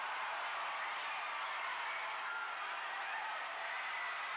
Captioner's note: crowd cheers